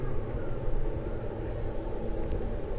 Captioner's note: none